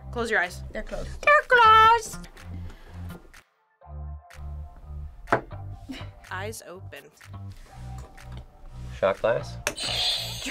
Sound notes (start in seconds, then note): 5.4 shot glass thuds